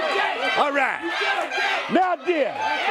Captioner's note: crowd cheering